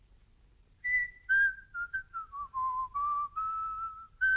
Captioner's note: whistling a tune